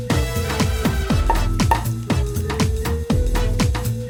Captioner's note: corks pop